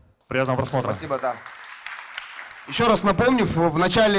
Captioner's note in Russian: аплодисменты